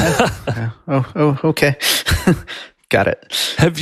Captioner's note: chuckles; laughs